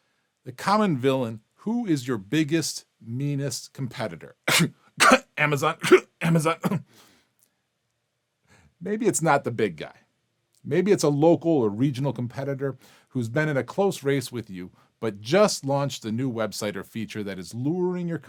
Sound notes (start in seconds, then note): 5.0 /cough; 5.0 cough